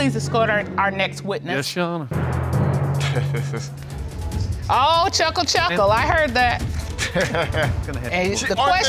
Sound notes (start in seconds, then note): 3.0 chuckling; 6.9 chuckling